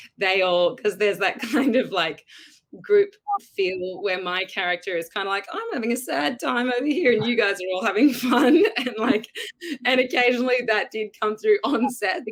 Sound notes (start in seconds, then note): 8.2 giggles